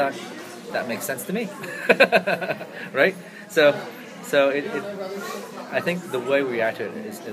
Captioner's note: laughs